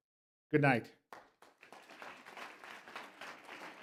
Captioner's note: applause